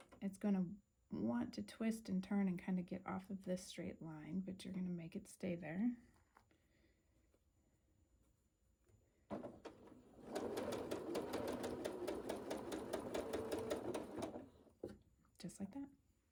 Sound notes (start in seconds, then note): 9.3 sewing